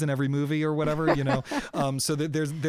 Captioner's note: laughter